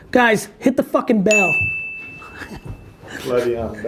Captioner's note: bell rings